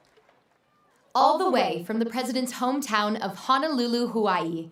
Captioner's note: applause